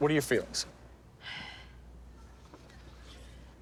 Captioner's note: sighs